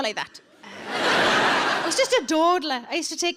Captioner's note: audience laughing